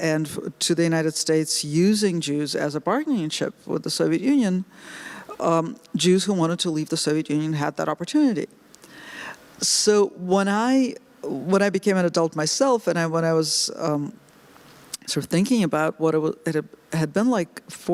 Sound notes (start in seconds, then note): none